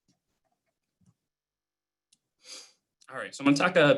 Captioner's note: clicking